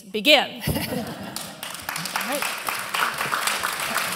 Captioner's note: applause